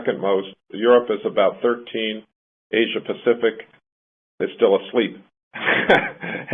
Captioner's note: laughs